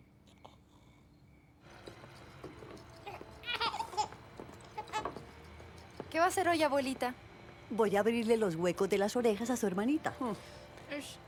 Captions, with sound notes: [baby laughing] What are you doing today, Grandma? I'm going to pierce Paola's ears.